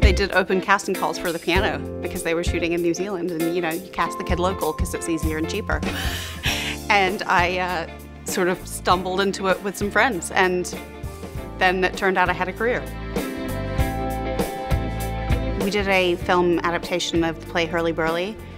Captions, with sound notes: They did open casting calls for The Piano because they were shooting in New Zealand and you know, you cast the kid local 'cause it's easier and cheaper, (chuckling) and I stumbled into it with some friends and then it turned out I had a career. We did a film adaptation of the play Hurly Burly.